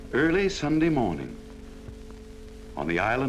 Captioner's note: voiceover